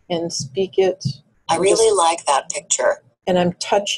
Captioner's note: voiceover